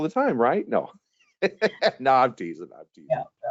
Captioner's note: chuckling